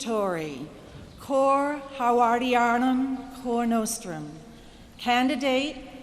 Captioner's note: latin speech